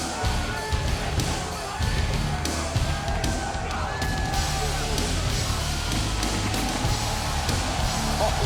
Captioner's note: applause